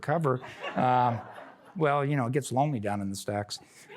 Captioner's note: laughter; laughter